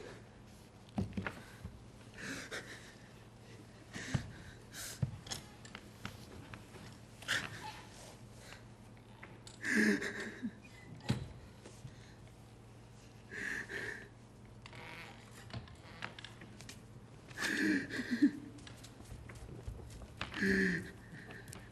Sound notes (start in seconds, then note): 9.5 λυγμός; 17.2 κλάμα